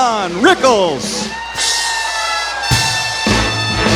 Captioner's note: audience cheering